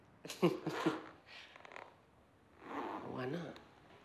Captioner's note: laughing